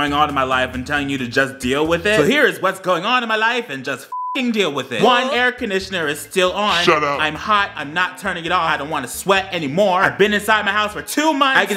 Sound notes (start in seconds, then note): 4.1 beep